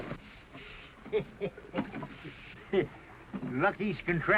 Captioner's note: windy chuckles